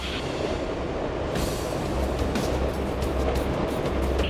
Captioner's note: wind whips